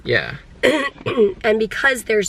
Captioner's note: clears throat